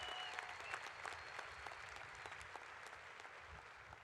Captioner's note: cheers and applause